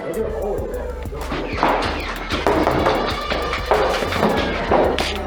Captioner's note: motors revving and blasters thunking